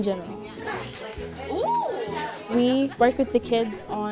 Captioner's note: kids chatting